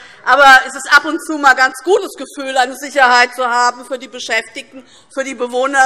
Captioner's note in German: none